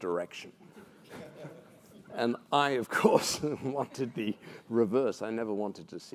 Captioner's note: laugh